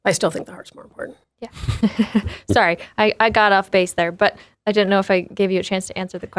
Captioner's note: laughs